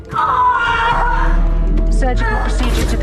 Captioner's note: screaming